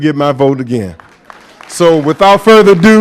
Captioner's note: applause